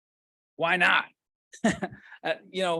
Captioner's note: laughs